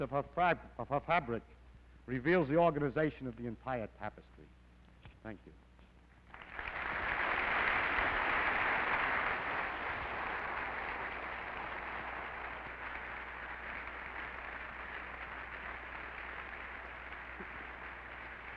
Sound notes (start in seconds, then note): 6.2 applause